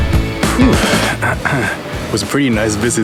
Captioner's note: clears throat